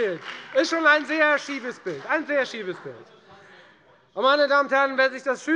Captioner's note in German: Beifall bei der FDP und der LINKEN